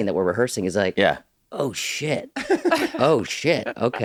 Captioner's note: laughing